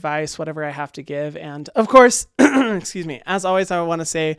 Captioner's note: clears throat